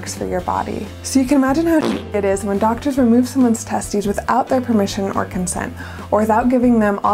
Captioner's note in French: bruit de pet